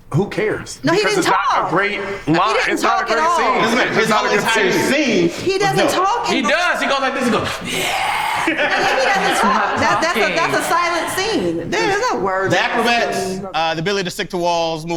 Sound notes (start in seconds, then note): 7.4 growl sounds; 8.6 group laughs